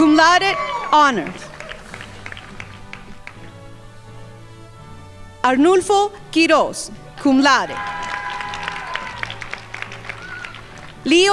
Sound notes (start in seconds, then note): 1.9 crowd applauding; 7.2 crowd applauding